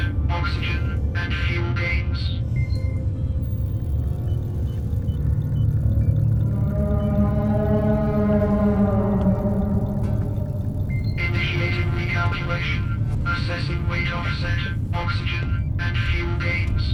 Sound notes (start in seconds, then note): 2.7 machine beeping; 6.9 Aerozoan vocalizes a slow, aching moan